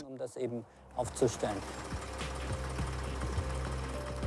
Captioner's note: tractor engine noise